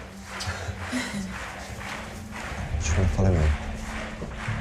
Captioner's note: audience chant